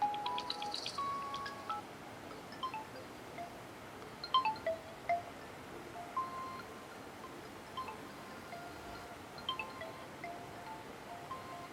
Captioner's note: ringTone Playing